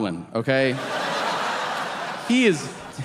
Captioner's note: audience laughing